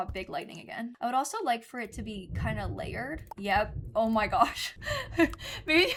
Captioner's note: thunder